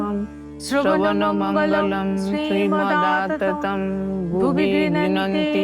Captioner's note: chanting